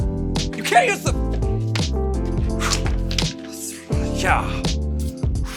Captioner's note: breathing heavily